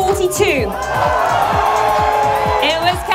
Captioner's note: cheering